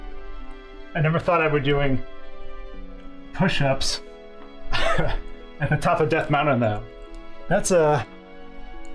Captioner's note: laughs